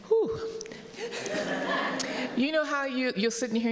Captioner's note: audience laughing